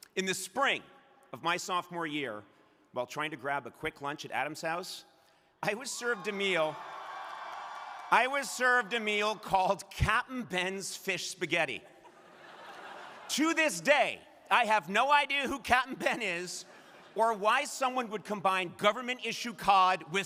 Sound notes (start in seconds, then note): 5.7 crowd cheering; 11.8 crowd laughing